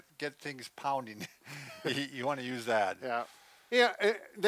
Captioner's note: chuckles